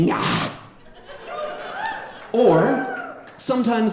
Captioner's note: audience laughing